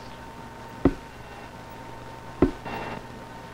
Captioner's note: tapping